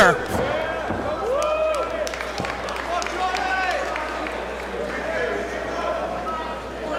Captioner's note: applause